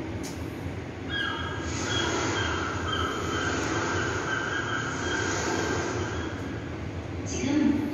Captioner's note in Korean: 갈매기, 파도 소리